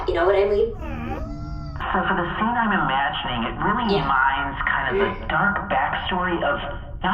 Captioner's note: over a megaphone